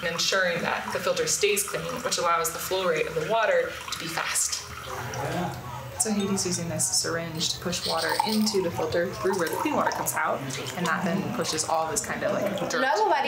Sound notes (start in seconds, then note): 9.6 foreign language